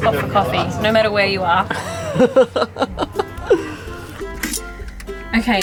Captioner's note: laughing